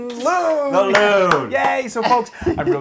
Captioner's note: applause